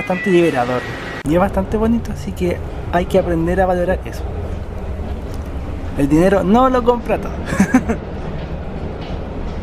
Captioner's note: laughs